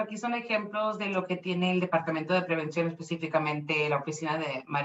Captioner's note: speaking Spanish